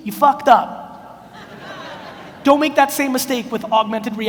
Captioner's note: audience laughs